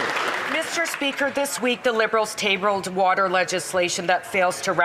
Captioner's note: some Applause